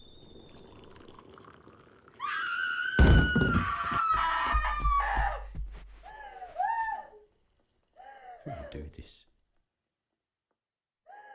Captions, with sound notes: [water pours] [mother screams] Who would do this?